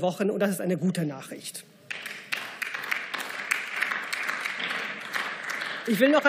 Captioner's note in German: Beifall